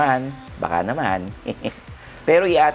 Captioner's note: laughs